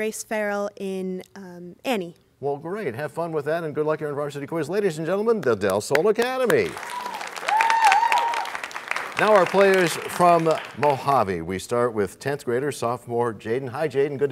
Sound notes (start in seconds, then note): 8.0 cheers and applause